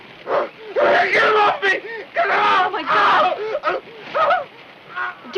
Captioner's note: screams